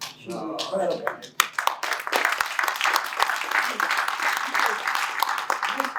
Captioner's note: applause